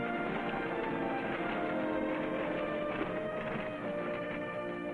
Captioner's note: carriage rattling; dramatic music